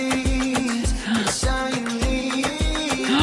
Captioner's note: gasp